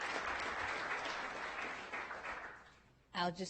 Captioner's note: audience applauding